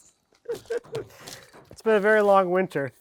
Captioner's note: speaker laughing